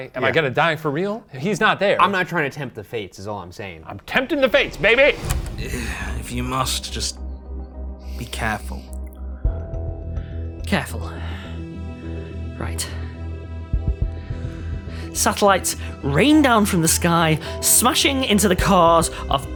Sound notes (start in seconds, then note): 5.5 groans; 5.5 ominous music